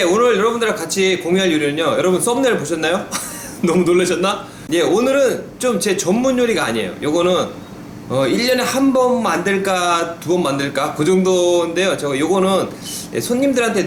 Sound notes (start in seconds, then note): 3.0 chuckles